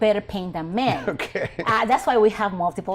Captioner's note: chuckling